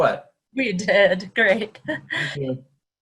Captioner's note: chuckles